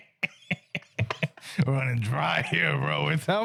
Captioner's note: laughing